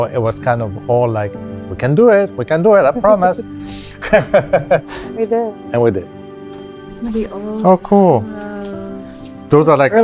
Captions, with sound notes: it was kind of all like, "We can do it! We can do it, I promise!" - (chuckles) - (laughs warmly) - And we did. - And we did. - Some of the old - Oh, cool. - photos. - Those are like,